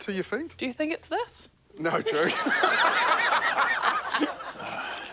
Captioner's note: laughs